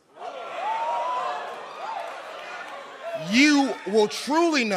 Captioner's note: crowd cheering